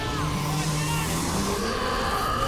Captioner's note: roaring; yelling